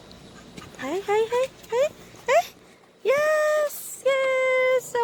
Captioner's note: excited pups